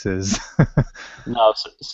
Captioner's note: laughter